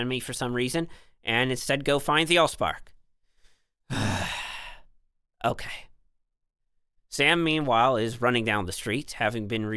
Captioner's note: sigh